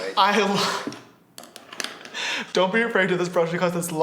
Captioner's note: laughs